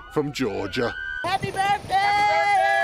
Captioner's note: cheering